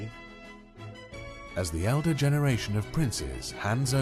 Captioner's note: voiceover